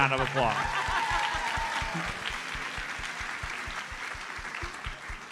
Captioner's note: audience cheers and applauds